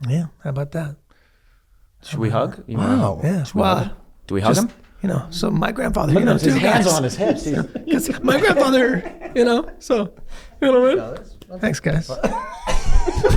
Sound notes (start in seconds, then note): 8.2 laugh; 11.2 whines; 12.0 coughs